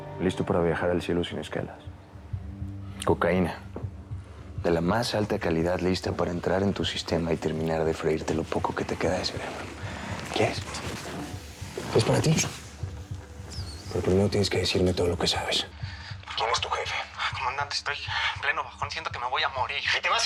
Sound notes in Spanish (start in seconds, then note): none